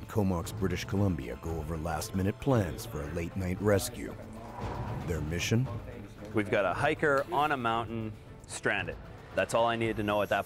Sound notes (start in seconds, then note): 4.4 voiceover